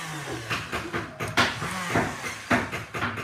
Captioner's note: motor whirring